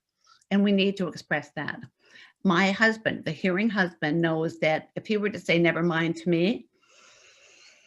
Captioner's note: deep inhale